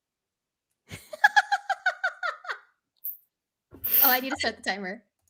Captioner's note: laughing